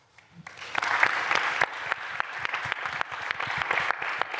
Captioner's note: applause